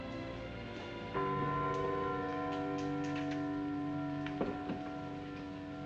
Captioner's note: church bells tolling